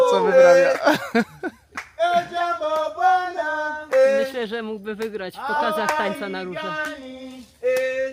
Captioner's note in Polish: śmiech